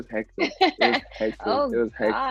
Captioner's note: laughs